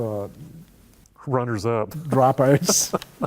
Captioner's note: laughter